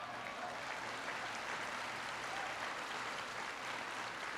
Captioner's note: applause